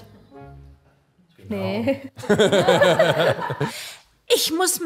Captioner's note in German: Lachen